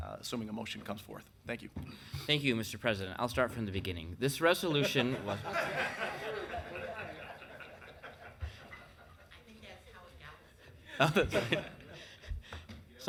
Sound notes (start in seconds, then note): 4.7 people laughing; 10.9 people chuckling